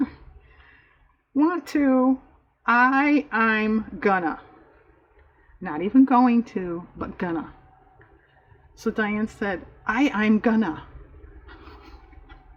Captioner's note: laughs